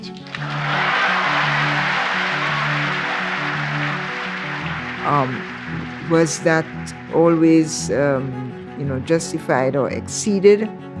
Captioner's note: applause